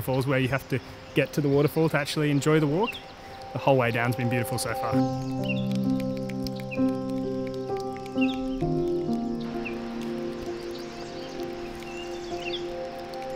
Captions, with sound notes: where you have to get to the waterfall to actually enjoy. The walk the whole way down has been beautiful so far. [water dripping] [birds chirping]